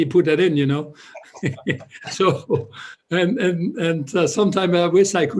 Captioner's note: laughter